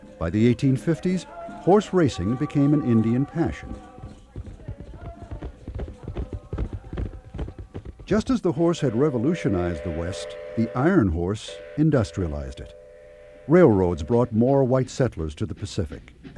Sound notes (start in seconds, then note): 4.5 hooves clopping